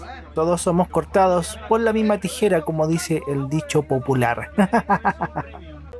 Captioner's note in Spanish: risas